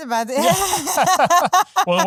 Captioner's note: laughing